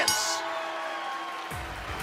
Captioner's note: bell ringing